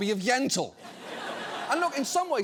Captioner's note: studio audience laughing